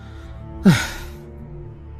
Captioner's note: sigh